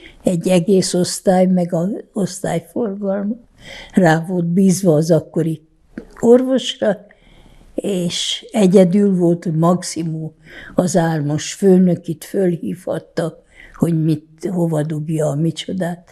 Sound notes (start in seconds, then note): none